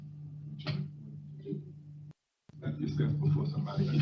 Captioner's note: speaker off microphone